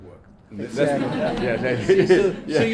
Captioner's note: all laugh